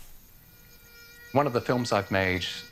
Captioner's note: mosquito buzzes